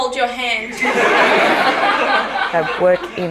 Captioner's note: laughter